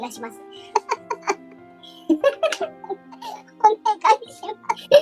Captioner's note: laughs